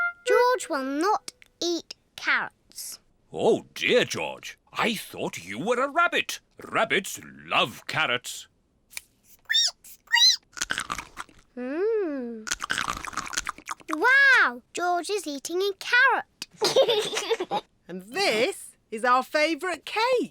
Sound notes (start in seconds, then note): 10.1 squeaks and crunches; 16.6 giggles